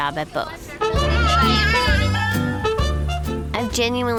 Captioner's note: baby cries